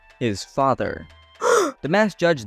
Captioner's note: gasp!